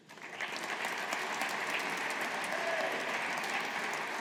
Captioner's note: audience applauding